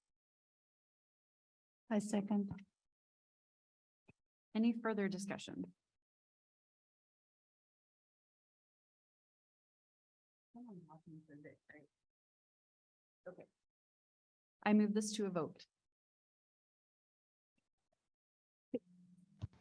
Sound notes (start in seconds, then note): 11.1 people chattering